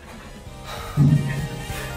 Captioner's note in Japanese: 溜め息